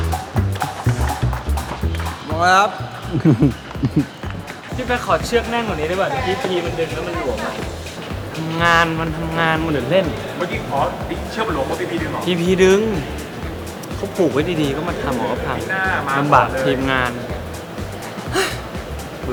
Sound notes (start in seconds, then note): 3.7 laughs